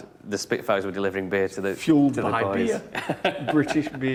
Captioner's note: both chuckle